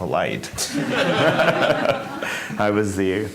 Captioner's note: laughter